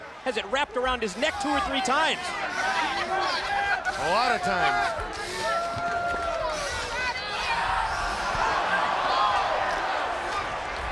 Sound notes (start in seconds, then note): 6.3 audience cheering